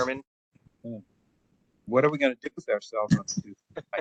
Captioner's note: laugh